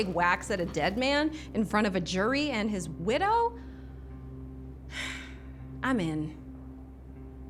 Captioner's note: exhales